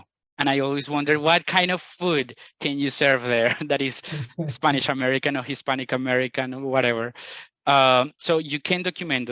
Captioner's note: laughs